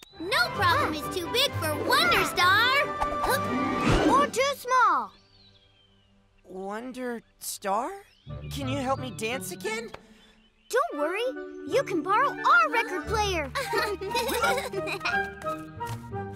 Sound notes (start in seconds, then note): 13.5 both chuckle